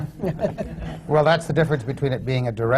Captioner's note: laughter